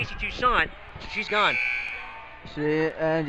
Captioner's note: buzzer rings